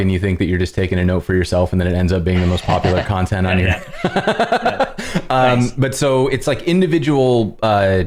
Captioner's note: laughter